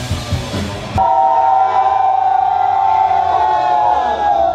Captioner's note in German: Jubel